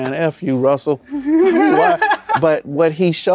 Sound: laughs

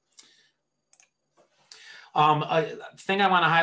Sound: mouse clicks

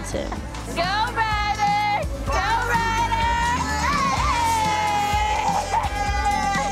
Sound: ladies cheering

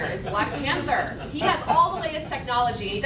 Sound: laughing

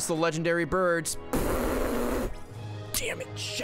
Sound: raspberry noise

